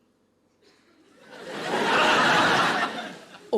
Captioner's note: audience laughing